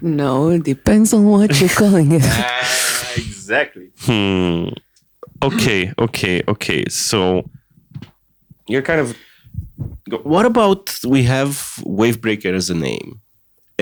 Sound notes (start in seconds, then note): 0.6 singing the verse; 8.7 stammering